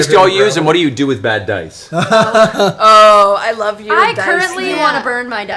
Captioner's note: laughs